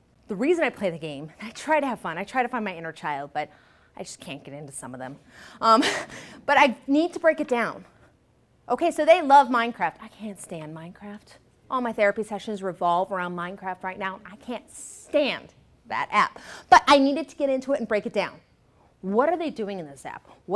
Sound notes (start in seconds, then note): 5.2 laughs